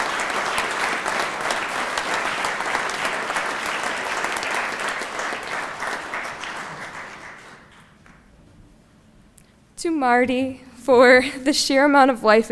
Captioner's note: applause